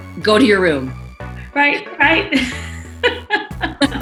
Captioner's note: laughs